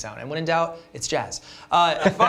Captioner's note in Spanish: risas